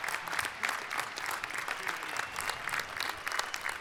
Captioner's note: applause